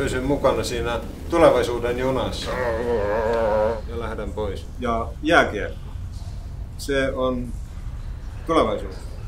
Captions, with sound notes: we can't stay along the train of the future? [Desperate groaning] ...and I will go away ...and ice hockey, that's the future